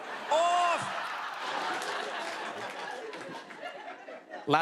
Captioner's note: laughter